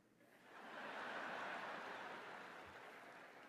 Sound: laughter

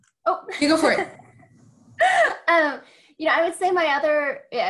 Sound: laughs

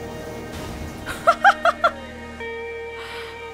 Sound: laughs

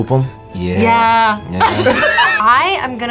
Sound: both laugh

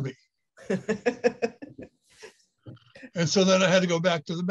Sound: laughing

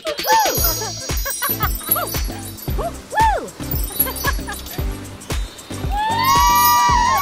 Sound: laughing and whooping; magical chimes; Barbie whoops; heavy rain sound; crowd cheers

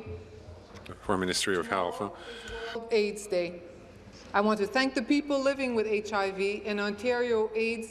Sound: speaking in french

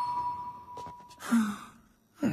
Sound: sigh

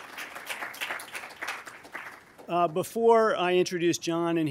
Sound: applause

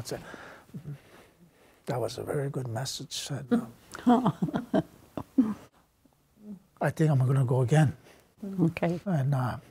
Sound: laughs

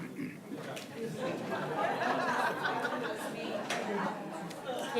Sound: attendees laughing

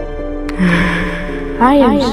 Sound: sigh

